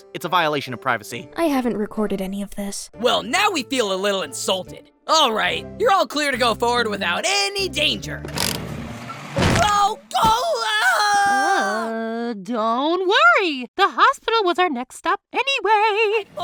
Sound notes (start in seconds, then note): 10.1 lifering screams in pain